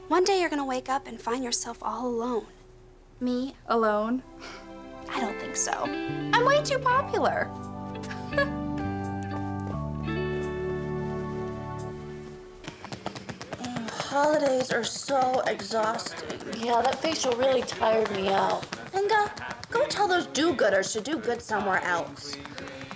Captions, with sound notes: One day you're gonna wake up and find yourself all alone. Me? Alone? I don't think so. I'm way too popular. [chuckles] [rapping their backs] Holidays are so exhausting. Yeah, that facial really tired me out. Inga, go tell those do-gooders to do good somewhere else.